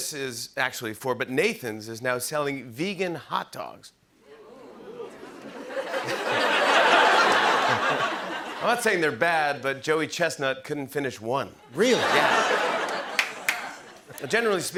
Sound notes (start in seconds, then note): 4.3 laughter